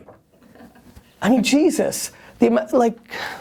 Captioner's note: laughs